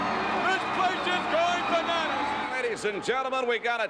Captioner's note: audience cheering